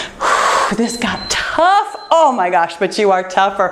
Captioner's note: timer beeps